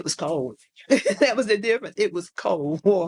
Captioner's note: laughs